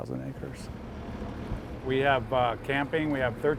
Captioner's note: engine hums